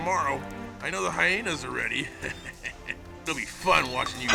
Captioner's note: ਹੱਸਦਾ ਹੋਇਆ